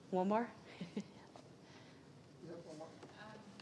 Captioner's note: laughing